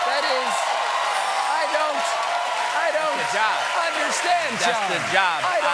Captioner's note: cheers and applause